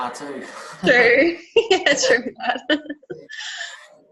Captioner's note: both laugh